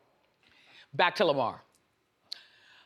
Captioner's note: none